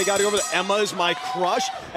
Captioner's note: bell ringing